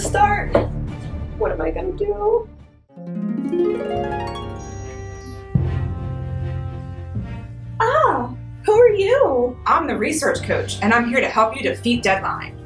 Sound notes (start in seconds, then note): 2.9 harp playing; 4.6 twinkle